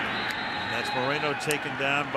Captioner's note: whistle